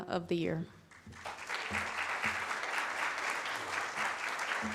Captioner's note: audience claps